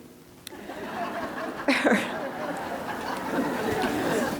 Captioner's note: laughter